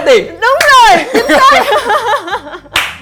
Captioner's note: laugh